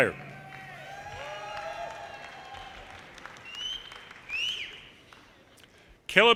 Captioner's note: audience cheers and applause